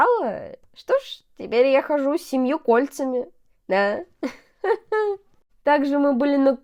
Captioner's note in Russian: смех